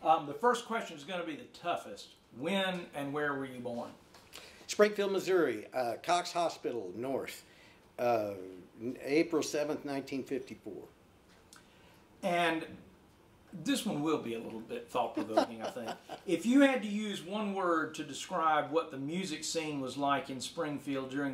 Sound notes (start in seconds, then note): 15.1 laughing